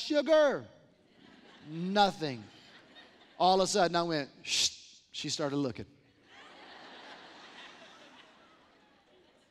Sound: laughter

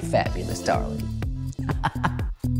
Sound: laughs

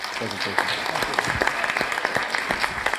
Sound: applause

